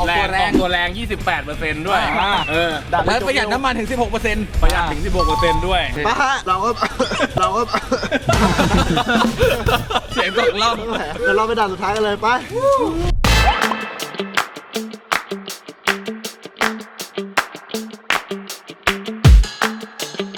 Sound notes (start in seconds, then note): 7.6 coughing; 8.5 laughing